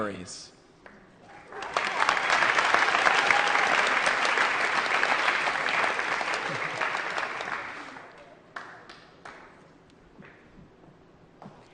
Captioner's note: applause